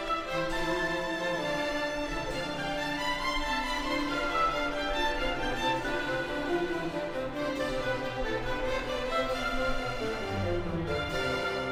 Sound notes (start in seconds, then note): none